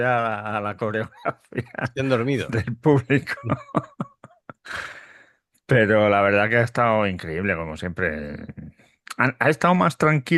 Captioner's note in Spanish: risas